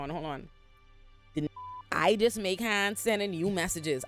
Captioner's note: beep